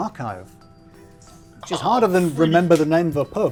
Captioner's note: groaning